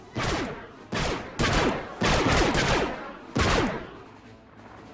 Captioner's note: blaster fire